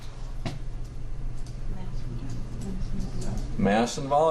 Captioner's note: students mumbling